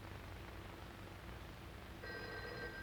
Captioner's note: phone ringing